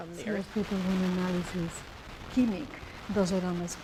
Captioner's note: speaking spanish